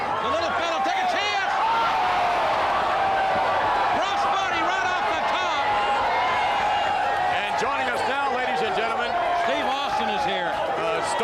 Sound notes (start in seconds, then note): 2.1 crowd cheering